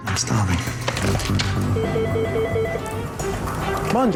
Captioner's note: phone rings